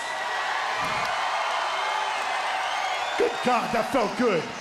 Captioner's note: crowd cheering